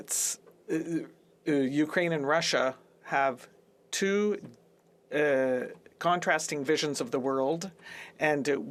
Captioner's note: speaking French